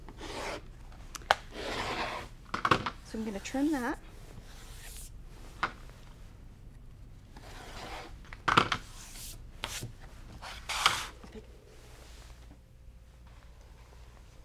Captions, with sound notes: (rotary cutter cutting fabric) So I'm gonna trim that. (rotary cutter cutting fabric) Okay.